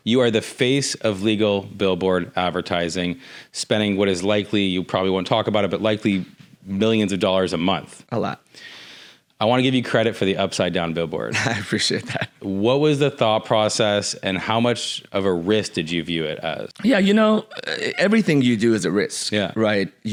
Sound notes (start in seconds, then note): 11.3 chuckles